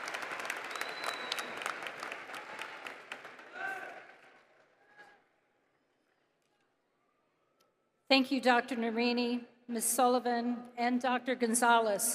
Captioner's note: applause